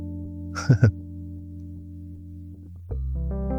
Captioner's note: chuckles